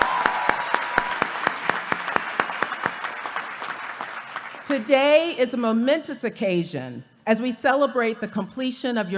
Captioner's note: applause